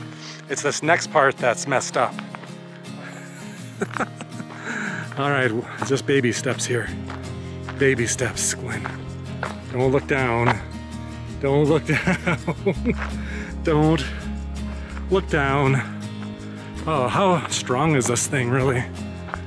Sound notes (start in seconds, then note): 3.1 laughter; 11.8 laughter